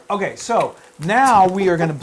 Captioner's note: laugh